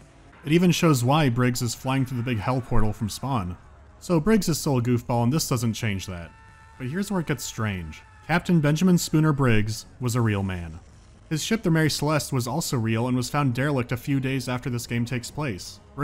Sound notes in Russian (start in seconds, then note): none